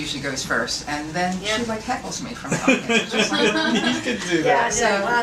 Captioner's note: all laugh